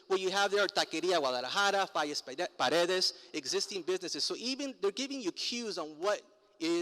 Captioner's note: foreign language